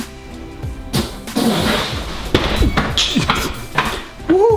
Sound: crashing

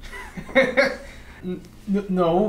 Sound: Ralph laughs

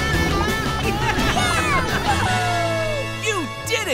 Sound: laughing

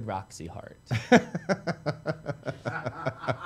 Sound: laughs

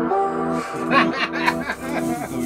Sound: laughing

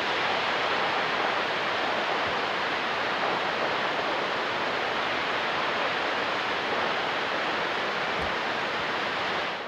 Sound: water falls

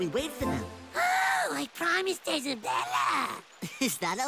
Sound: pitching his voice up

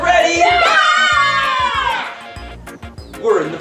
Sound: cheering

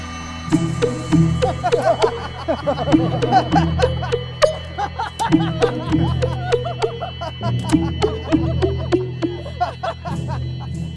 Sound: laughter

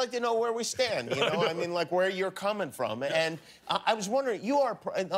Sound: laughter

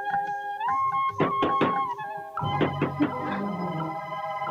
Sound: door knocks

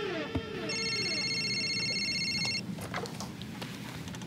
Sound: cellphone rings

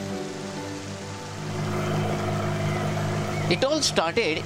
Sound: engine roaring

